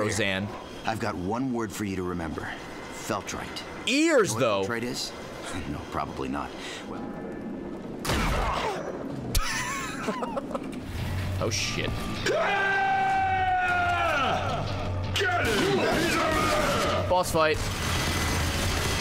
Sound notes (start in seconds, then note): 9.3 laughs